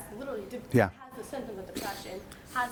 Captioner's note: voiceover